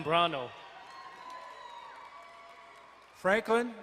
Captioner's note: crowd cheering and applauding